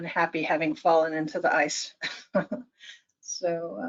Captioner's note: chuckles